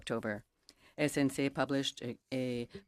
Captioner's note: speaking in French